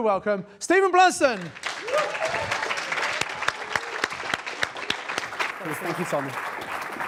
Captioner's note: audience applauds